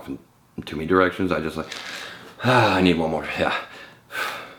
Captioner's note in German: atmet tief durch